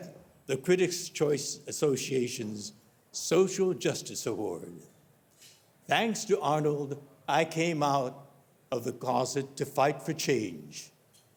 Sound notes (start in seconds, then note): none